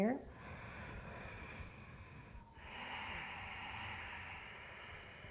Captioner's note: deep breathing